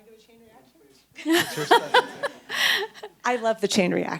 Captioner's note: laughs